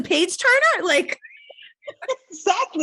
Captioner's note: laughing